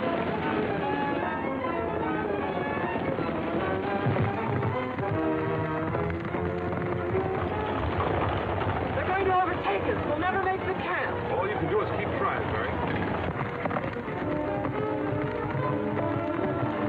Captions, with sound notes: (dramatic music) (horse galloping) (reins jingling) - They're going to overtake us. We'll never make the camp. - All you can do is keep tryin', Mary. (horses galloping)